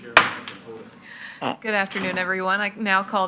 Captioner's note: gavel clinking